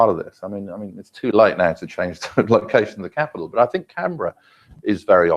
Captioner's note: laugh